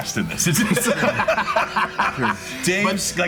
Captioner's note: group laughing